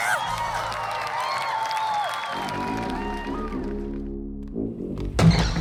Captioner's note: the crowd cheers as we return to Welling's kitchen